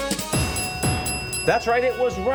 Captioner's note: bell ringing; upbeat music